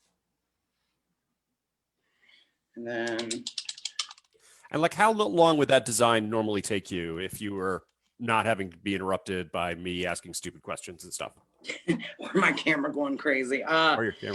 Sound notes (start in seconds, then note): 11.7 laughs